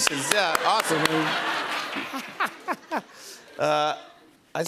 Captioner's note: laughter